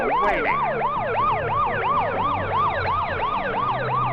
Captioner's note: siren wailing